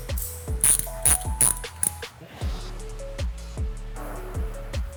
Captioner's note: wrench cranking